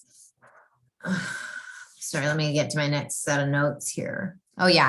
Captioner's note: sighs